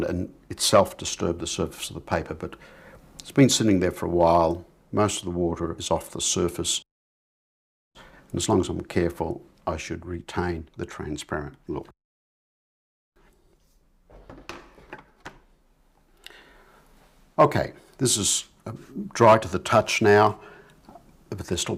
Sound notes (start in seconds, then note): 13.6 silence